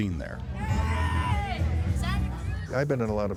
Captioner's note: screaming